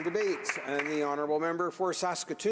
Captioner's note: applause